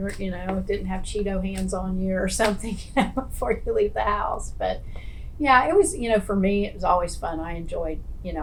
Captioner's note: laughs